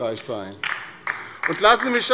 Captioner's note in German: Beifall bei der LINKEN